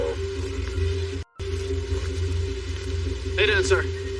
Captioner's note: distorted voice